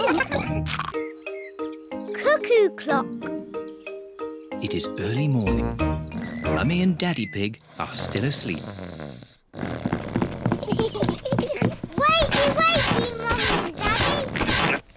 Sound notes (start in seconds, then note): 9.3 snores; 10.4 both giggle